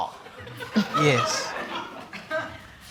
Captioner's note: audience laughing